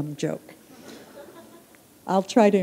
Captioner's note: laughter